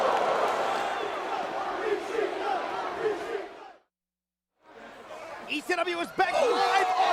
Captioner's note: applause